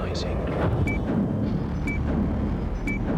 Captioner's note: beeping